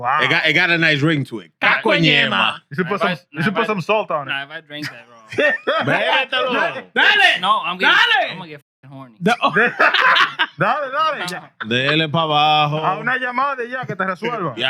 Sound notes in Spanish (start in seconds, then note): 2.4 Hablando en idioma extranjero; 7.0 Hablando en idioma extranjero; 7.0 Riendo; 9.3 Riendo; 9.6 Hablando en idioma extranjero